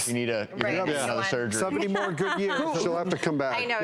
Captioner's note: laughing